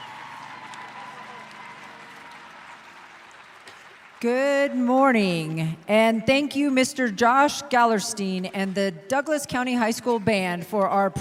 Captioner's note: applauding